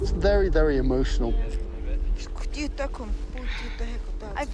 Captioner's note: in native language